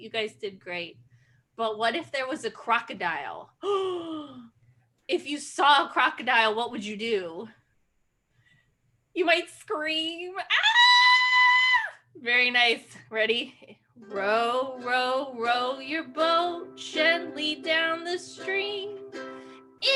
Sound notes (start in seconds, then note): 3.7 gasp; 10.4 screams